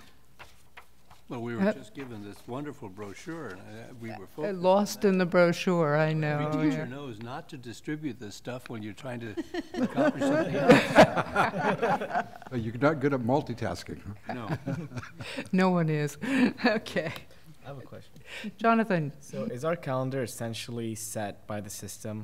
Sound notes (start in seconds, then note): 9.3 laughter